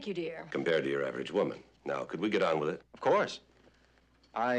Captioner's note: none